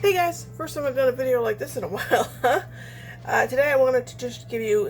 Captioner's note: laughs